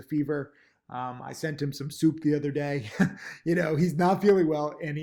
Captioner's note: laughs